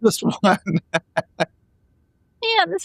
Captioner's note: laughing